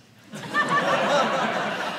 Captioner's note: audience laughing